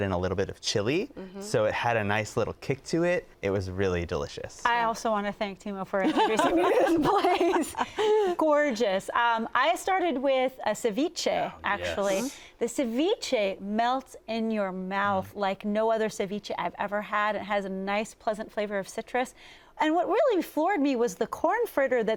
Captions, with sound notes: in a little bit of chili so it had a nice little kick to it. It was really delicious. - I also want to thank Timo for introducing me to this place. (laughing) Gorgeous. I started with a ceviche, actually. The ceviche melts in your mouth like no other ceviche I've ever had. It has a nice pleasant flavor of citrus and what really floored me was the corn fritter